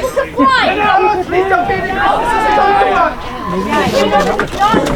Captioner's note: people chattering